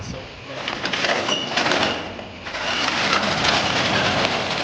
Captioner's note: door rattling